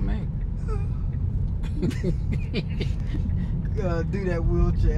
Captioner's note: laughing